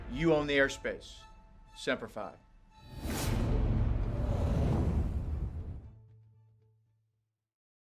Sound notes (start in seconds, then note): 3.1 boom